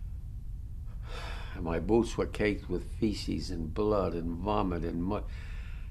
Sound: sighs

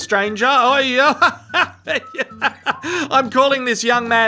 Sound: uncomfortable laughing

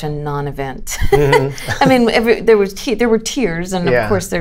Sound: laughter

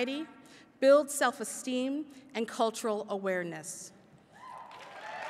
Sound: applause

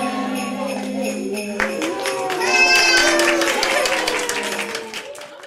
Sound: children cheering

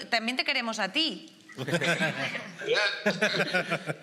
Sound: they all laugh

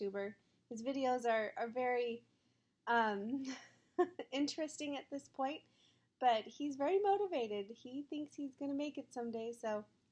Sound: giggling

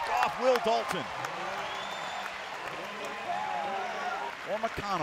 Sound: crowd cheering

